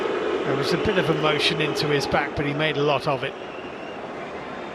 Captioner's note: audience oohs